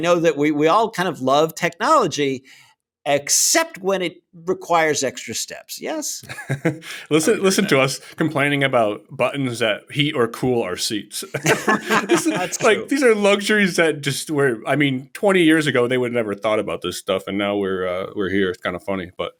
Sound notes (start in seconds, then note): 11.3 laughter